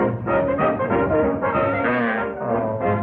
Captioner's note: blatts